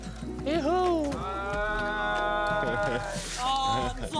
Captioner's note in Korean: 환호성